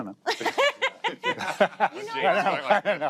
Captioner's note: all laugh